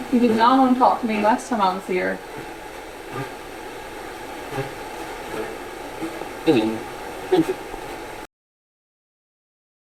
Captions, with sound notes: You did not want to talk to me last time I was here. [Static sound] - Hello. [Static sound]